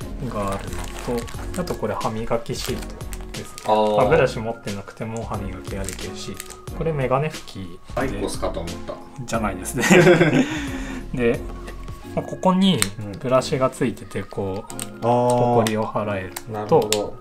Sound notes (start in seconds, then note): 9.8 laughs